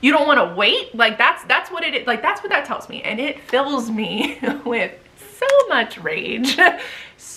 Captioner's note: laughs